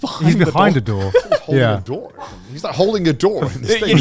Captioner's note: laughing